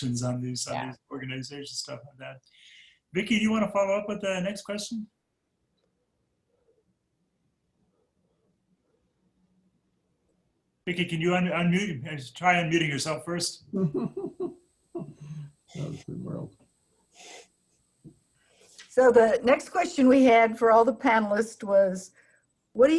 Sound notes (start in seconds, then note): 13.9 laughing